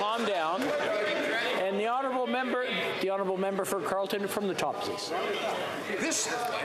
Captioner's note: mixed voices